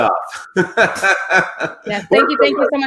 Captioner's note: laughs